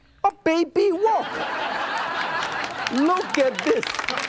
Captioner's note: audience laughs; hands clap